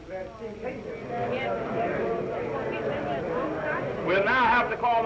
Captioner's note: all chattering